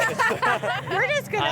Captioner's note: laughter